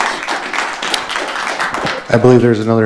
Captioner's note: audience applauding